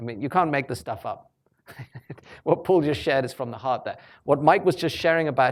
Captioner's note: chuckles